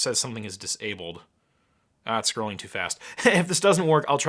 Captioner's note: laughing